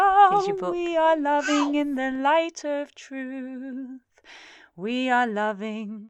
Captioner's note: child babbles